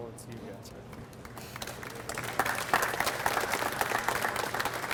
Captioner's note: audience applauds